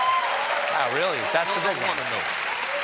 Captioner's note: cheers and applause